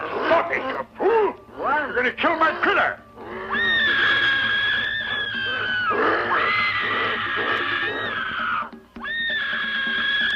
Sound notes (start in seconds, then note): 3.3 screaming